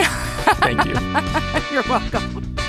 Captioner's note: laughing